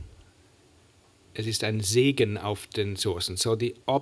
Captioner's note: german